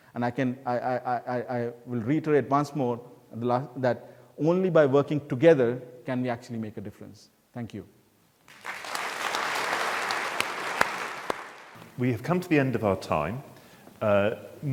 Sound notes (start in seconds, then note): 8.4 audience clapping